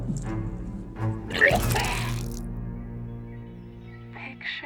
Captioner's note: vomit splashing; bucky retching